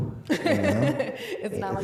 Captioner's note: laughing